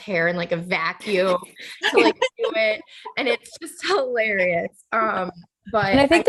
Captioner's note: laughter